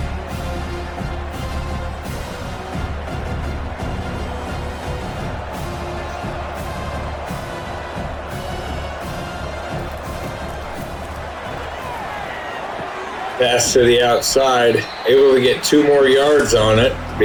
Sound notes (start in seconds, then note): 0.0 crowd Noises